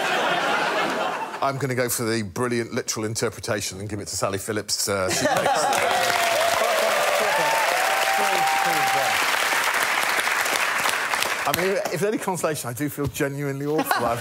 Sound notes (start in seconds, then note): 0.0 laughter; 5.4 applause